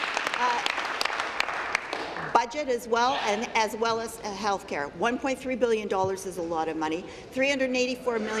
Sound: applause

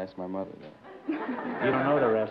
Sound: laughter

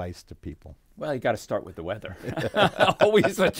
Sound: laughing

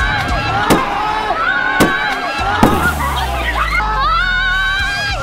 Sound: screams

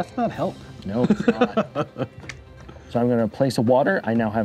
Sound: laughing

